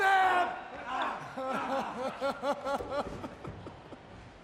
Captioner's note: Bray laughs